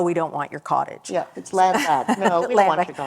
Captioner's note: laughter